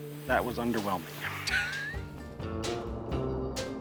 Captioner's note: laughter